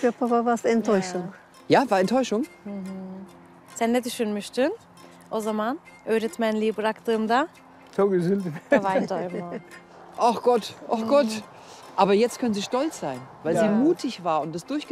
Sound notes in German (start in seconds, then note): 7.4 Er antwortet auf türkisch